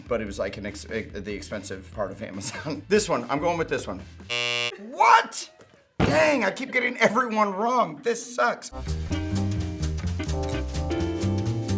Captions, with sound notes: But it was like the expensive part of Amazon. This one. I'm going with this one. (buzzer sound) What?! Dang. I keep getting every one wrong. This sucks. (jazz music)